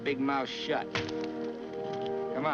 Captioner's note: wet smack